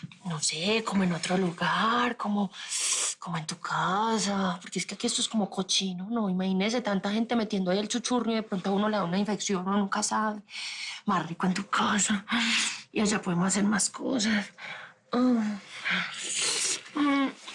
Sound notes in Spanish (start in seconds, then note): none